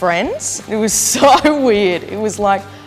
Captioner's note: chuckles